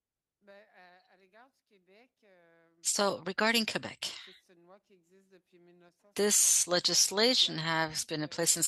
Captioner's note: speaking French